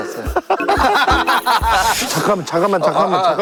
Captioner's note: just laughs